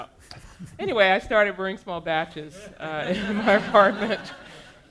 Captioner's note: audience laughing